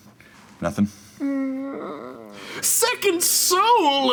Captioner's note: groaning